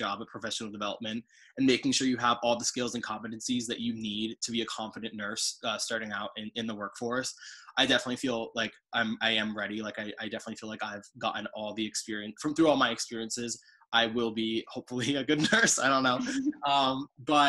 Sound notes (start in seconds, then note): 15.3 laughing